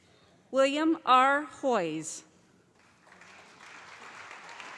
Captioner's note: calling Graduate Names